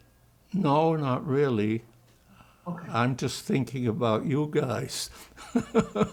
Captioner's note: laughing